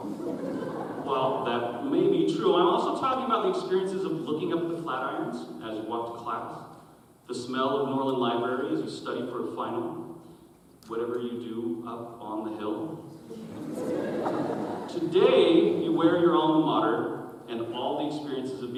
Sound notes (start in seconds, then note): 0.0 audience chuckles; 13.3 audience chuckles